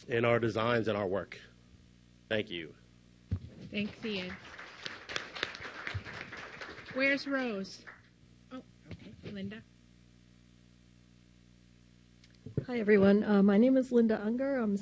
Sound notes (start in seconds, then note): 3.7 applause